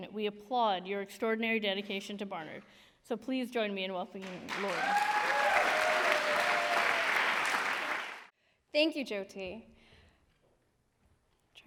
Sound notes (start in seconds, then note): 4.2 applause